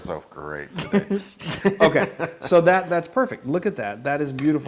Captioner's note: laugh